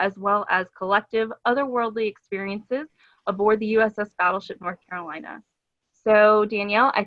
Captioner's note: none